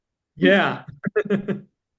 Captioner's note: laughs